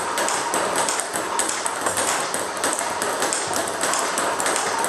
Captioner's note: ball ping pong hitting continues